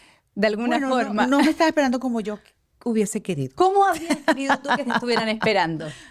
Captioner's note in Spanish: risas